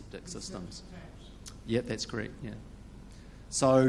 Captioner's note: man talking in crowd